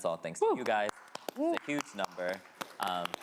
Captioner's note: all applauding